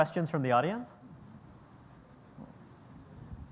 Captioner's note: pause